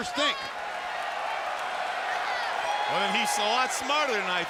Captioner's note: audience cheers